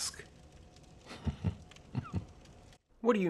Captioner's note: quiet chuckle